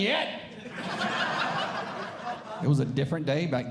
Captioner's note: audience Laughing